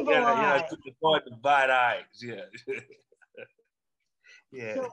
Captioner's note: laughs